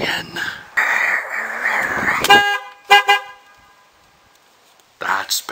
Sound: horn honking

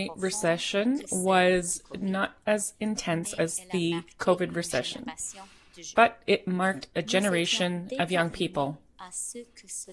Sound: speaking French

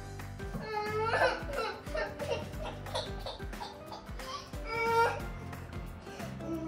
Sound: crying

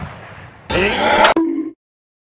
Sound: speaks ANGRY ugly hair language

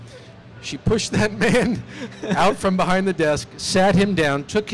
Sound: laughs

